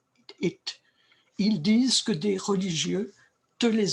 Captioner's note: speaking french